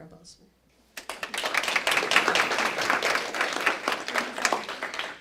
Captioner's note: applause